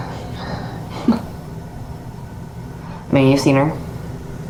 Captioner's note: Tina chuckles